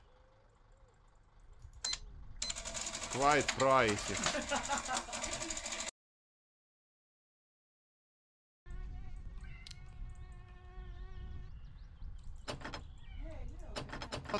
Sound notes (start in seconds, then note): 2.4 register beeps, prints receipt; 3.6 laughs; 12.1 clicks, door handle rattles